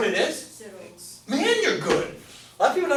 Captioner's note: voiceover